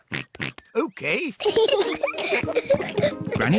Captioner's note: giggles; oinks; peppa and george giggle